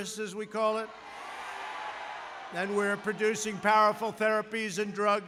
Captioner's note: applause